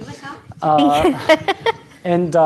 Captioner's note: laughing